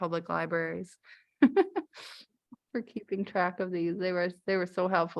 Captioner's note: laughter